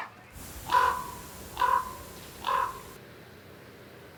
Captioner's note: bird squawking